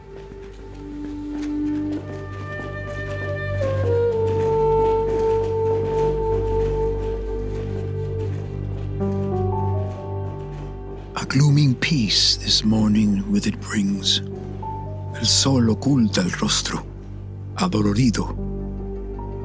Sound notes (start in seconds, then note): 2.0 main theme; 6.7 footsteps fading